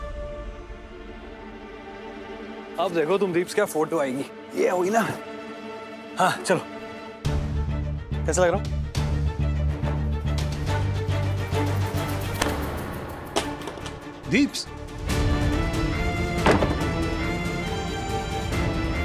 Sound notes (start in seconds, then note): 12.1 phone thuds; 16.2 door closes